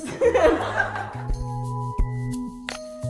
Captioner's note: laughter